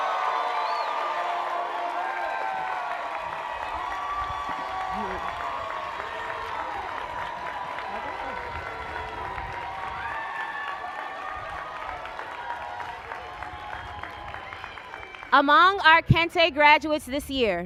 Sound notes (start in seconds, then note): 4.9 cheers and applause